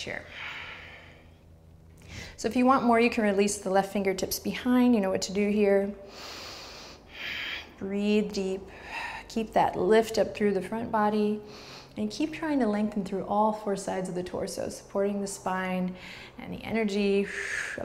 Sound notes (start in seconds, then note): 0.3 breaths; 6.1 strong breath